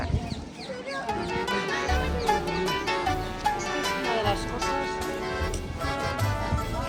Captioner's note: laughs